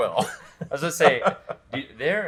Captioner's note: laughs